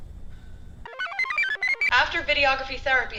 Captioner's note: computer chirps